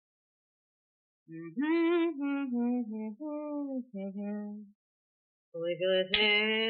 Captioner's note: humming; singing in French